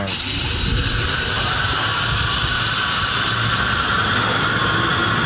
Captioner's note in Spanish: Vapor a presión